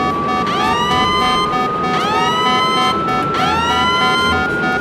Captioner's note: siren beeping